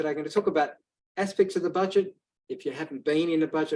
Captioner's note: none